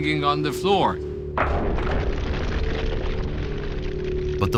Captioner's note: distorted, echoing thud